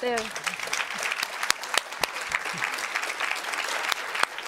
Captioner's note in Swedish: Applåder från publiken